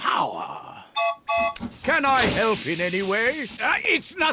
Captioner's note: toots horn